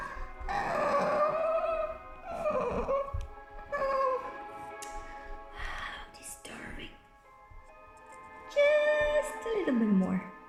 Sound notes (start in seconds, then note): 0.0 Pumpkin keeps sobbing